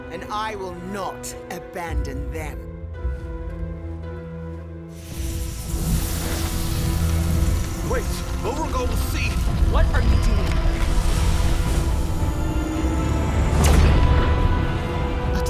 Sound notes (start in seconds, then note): 2.6 dramatic music; 5.1 hand hissing; 11.0 beacon whooshing; 12.7 dramatic music; 13.9 beacon whooshing